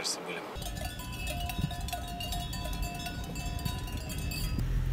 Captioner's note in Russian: звук колокольчиков на коровках